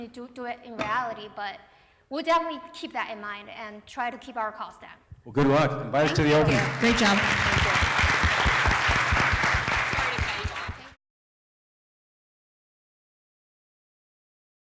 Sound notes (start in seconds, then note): 7.9 applause